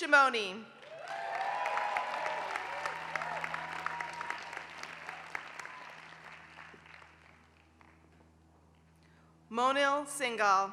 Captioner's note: applause